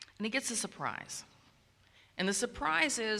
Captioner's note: none